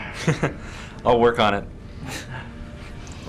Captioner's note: laugh